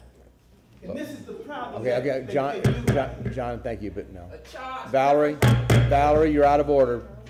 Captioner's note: sounding gavel